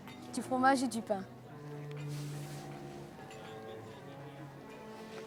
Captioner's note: speaking in a foreign language